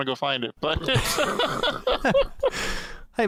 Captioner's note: laughter